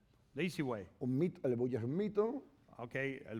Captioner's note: speaking spanish